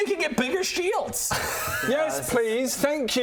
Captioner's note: laughs in professional D&Der